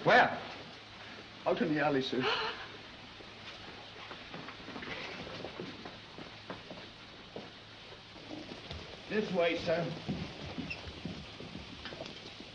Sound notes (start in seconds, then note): 2.2 gasps